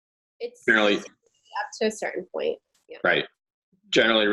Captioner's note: audio distorting